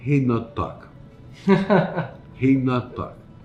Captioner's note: chuckles